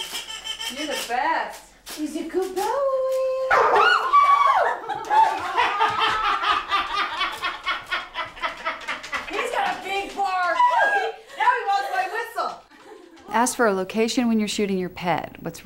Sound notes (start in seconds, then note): 3.5 Nelson barks; 3.6 women squeal and laugh